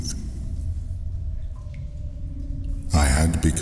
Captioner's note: cave noises